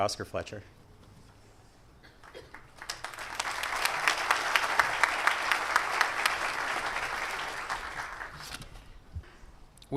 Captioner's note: applause